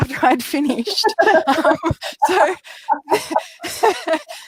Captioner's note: laughing